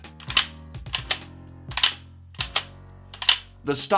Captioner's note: gun bolt clicking